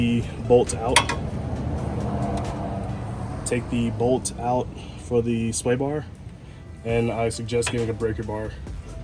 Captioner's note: car passing